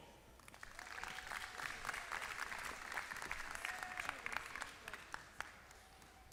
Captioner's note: applause